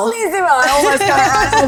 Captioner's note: laughing